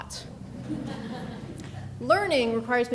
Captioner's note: people laughing